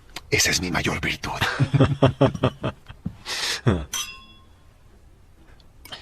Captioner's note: laughs